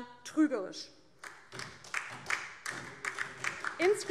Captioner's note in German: Beifall DIE LINKE und vereinzelt SPD